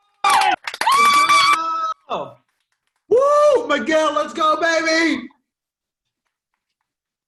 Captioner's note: applause